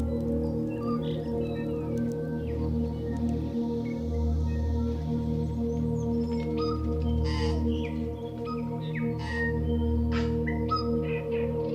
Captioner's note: birds quacking and chirping